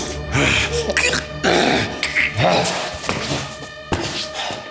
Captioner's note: Siegmund gagging; eerie music